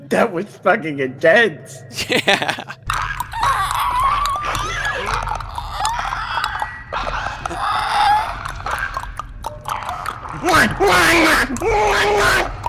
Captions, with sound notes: That was fucking intense! *Chuckles* Yea! *Clicker/alien noises* *Buck's war cry*